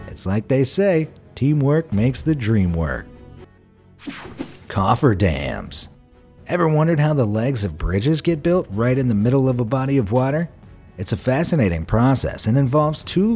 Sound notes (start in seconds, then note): 4.0 image swooshing; 4.1 image buzzing